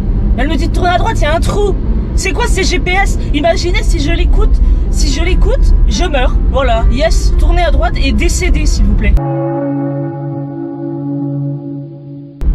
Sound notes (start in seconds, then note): 9.2 funeral knell